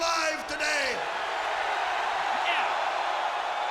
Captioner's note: audience cheers